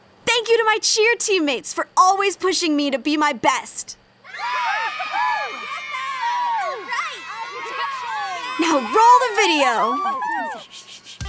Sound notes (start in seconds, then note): 4.2 girls cheer